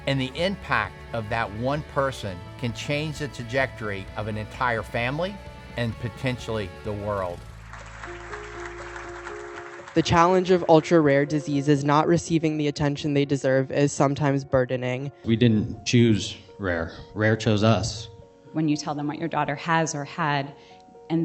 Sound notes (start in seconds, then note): 6.8 people clapping hands